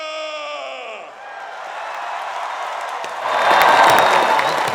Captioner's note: cheers, applause